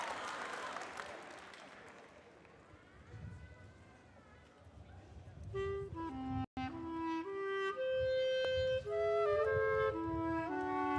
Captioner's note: cheering and applause